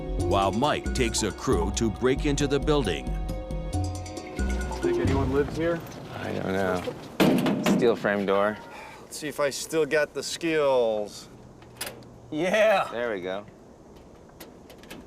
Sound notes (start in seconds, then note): 11.4 laughing